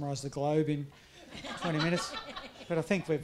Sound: audience laughs

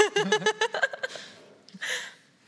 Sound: laughs

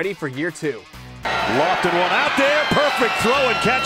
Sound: crowd cheering

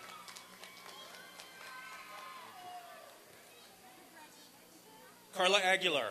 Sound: applause and cheering

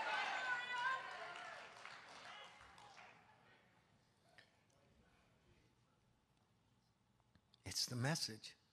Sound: congregation cheering

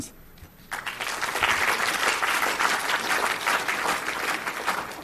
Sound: audience applauding

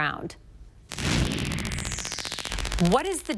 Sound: transition sound effect

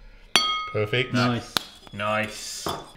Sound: bowl chimes

